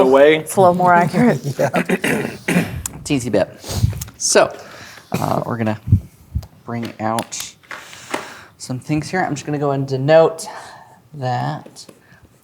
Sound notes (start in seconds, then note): 0.6 laughing; 0.6 laughs; 1.5 clears throat